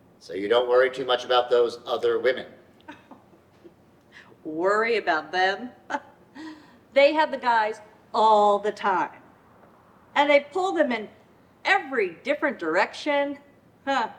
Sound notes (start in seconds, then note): 2.8 chuckles